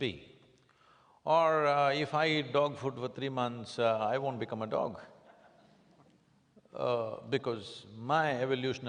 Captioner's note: few laugh